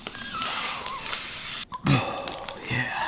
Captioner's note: inhaling air; exhales